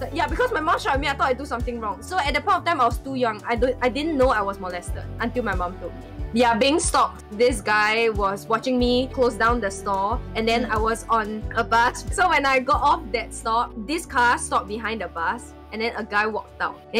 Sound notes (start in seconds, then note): none